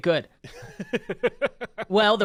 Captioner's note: laughs